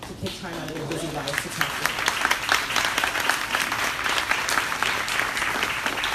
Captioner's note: crowd applauding drowns out speaker